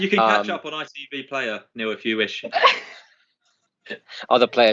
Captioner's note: laughter